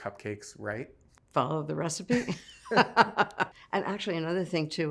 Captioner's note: laughs